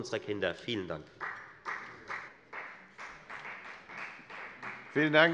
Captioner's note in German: Beifall der Abg